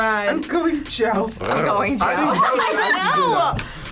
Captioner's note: purrs